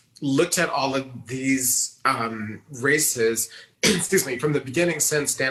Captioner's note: coughs